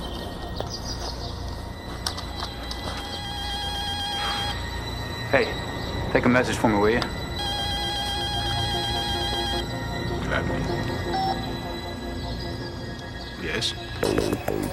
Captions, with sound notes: (ringing continues) - Hey, take a message for me, will you? (ringing continues) - Gladly. (phone beeps) Yes?